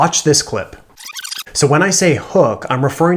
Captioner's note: distorting